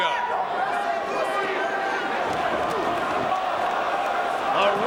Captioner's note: crowd chattering